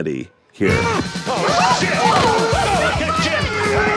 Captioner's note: Hopper growls